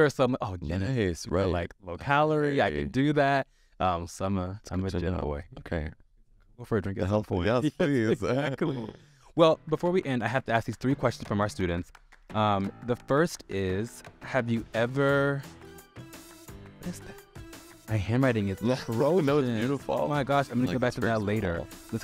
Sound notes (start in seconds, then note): 7.6 laughs; 12.1 upbeat music